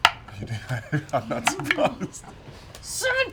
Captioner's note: laughter